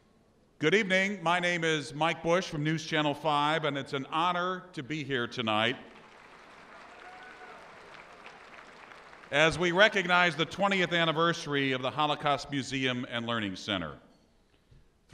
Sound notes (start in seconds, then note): 5.9 audience applause